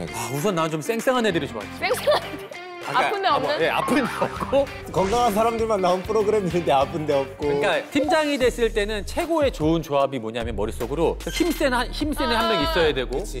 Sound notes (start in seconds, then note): 1.8 laughing